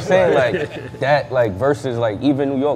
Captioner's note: laughing